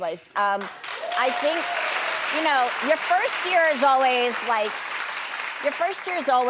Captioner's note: audience applauds; audience cheers